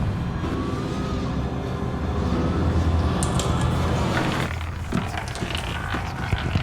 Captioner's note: marble rattling; wind howling